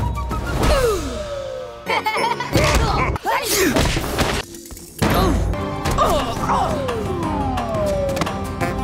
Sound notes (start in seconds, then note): 1.9 laughing; 2.9 sneezing; 5.3 grunting